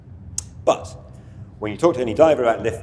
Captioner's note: tongue clicks